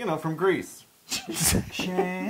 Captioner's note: laugh